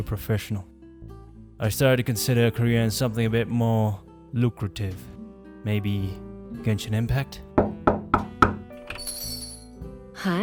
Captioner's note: knock/knock